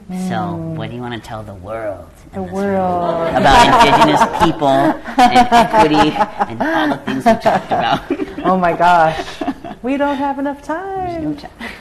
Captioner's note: laughter